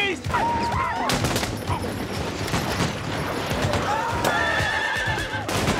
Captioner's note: gunshots